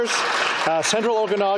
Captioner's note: applause